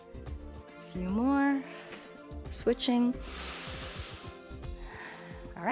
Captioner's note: inhales and exhales